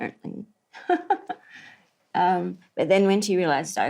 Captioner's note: laughs